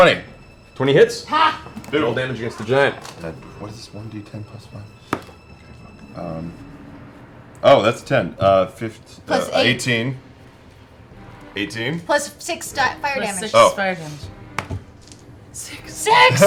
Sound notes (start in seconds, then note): 3.9 quietly